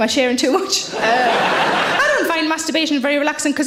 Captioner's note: audience laughs